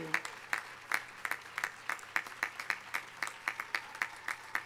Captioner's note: audience applauding